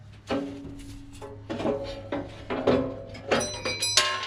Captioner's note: metal clanging